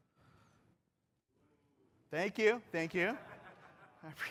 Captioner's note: laughter